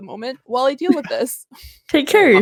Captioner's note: everyone laughs